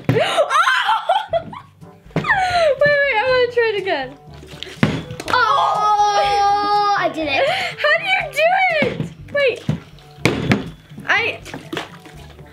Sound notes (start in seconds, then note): 0.2 laughing; 4.4 bottle landing; 9.6 bottle landing